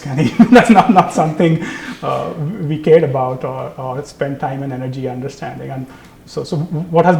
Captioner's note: laugh